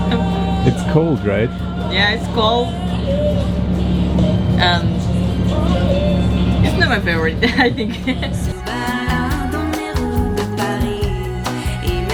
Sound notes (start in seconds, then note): 7.3 chuckles; 8.0 upbeat French music